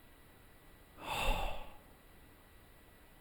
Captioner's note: sighs